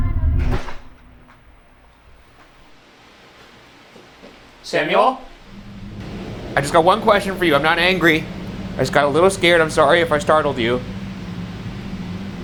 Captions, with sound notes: (door clicking) (mysterious knocking) Samuel? I just got one question for you, I'm not angry! I just got a little scared, I'm sorry if I startled you.